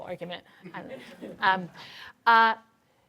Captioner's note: laughter